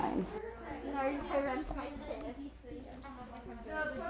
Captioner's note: students chattering